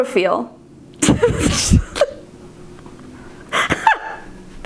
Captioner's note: both laughing